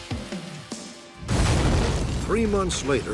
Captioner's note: explosion